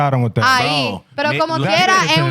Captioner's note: speaking In Foreign Language